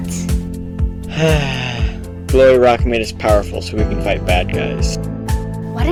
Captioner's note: sighs